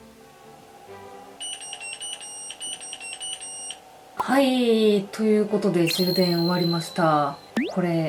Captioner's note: buzzer notifying the end